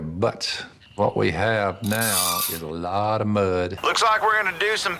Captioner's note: metal creaking